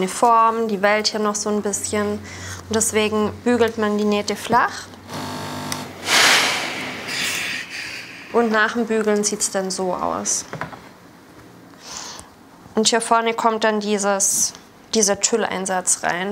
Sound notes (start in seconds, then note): 5.7 hiss